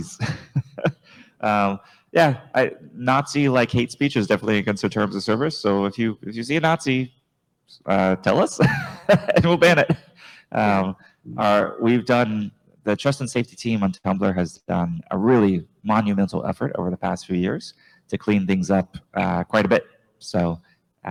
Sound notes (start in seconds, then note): 0.0 chuckles; 8.6 chuckles